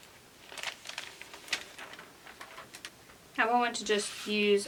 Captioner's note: sheet rustles